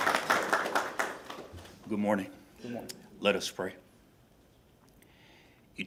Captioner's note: applause